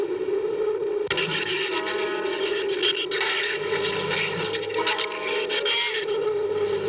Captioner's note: shrews chattering